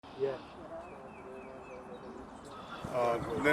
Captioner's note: birds chirping